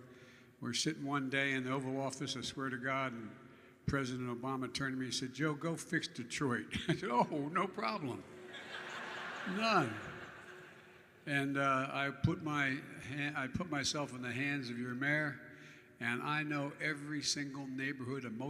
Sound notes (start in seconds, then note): 8.4 laughter